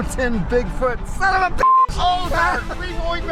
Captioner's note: beep